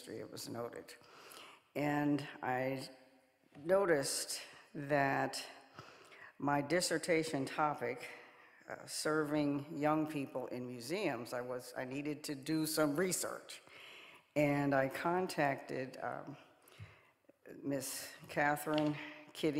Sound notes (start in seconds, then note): none